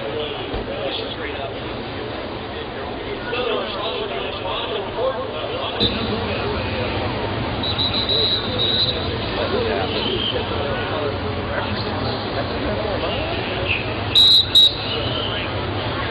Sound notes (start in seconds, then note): 7.6 whistle; 10.3 chatter; 14.1 whistle